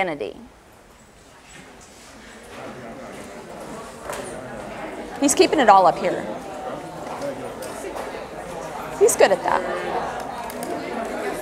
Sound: audience chatter

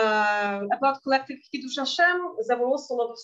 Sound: speaking in Yiddish

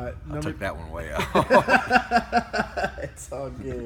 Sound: laughter

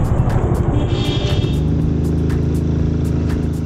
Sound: cars beeping

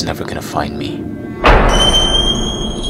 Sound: jump Scare; high Pitched Scream

